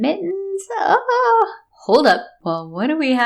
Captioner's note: pathetic sounding whine